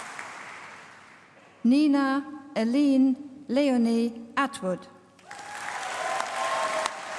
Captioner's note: applause